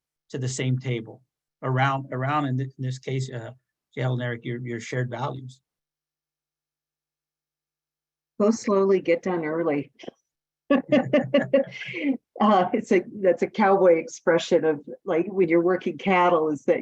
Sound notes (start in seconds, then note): 10.7 laughs